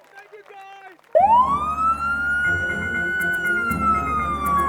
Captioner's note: police siren